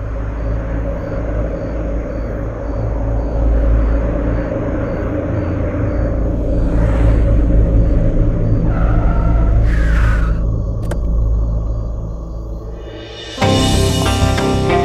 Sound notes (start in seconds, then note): 8.8 Car halting; 10.8 Car door opens